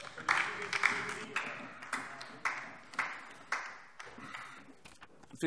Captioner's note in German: Beifall DIE LINKE